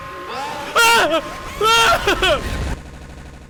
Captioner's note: Skull yells